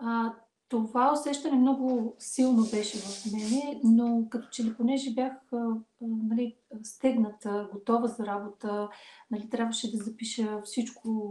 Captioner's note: foreign Language followed by English Interpreter